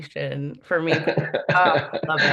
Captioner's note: laughs